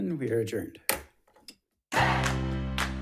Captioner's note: gavel bangs; lively music